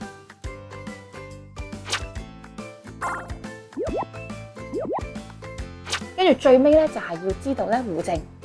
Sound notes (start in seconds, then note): 1.7 swishing sound; 3.8 bubbling sound